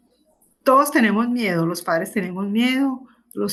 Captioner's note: speaking spanish